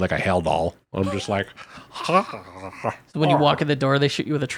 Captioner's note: gurgles